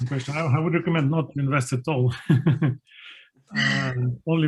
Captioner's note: laughing